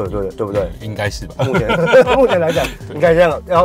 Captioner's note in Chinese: 哈哈哈